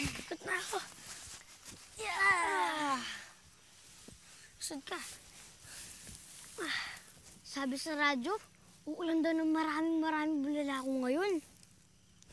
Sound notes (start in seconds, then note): 2.0 both grunting